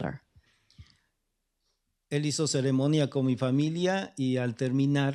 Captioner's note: speaking spanish